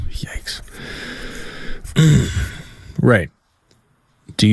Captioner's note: whispers; clears throat